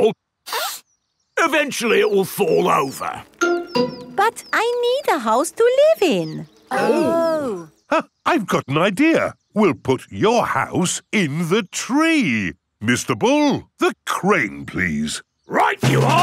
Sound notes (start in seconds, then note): 0.5 sniffs; 8.5 gasps